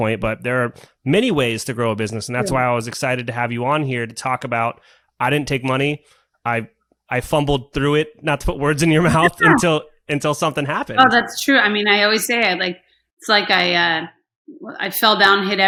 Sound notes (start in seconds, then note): 8.9 laughs